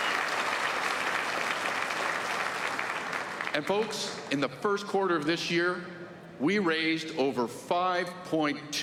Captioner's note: applause